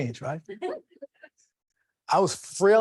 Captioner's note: people laughing